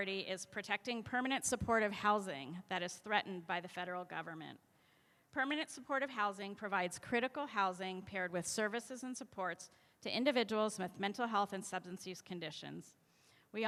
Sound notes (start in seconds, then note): none